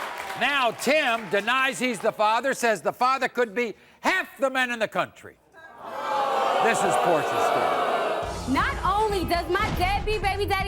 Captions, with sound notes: Now Tim denies he's the father, says the father could be half the men in the country. (audience booing) This is Porscha's story. - Not only does my deadbeat baby daddy